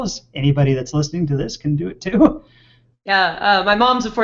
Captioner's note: chuckles